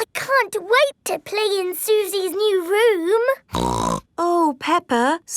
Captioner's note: snorts